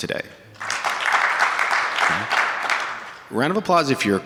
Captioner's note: audience applauding